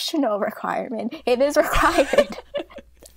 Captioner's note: hosts laugh